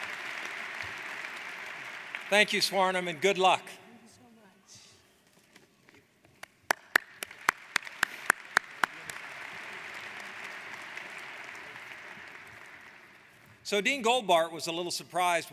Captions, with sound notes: - Thank you Swarnim and good luck. - Thank you so much. (applauding) - So Dean Goldbart was a little surprised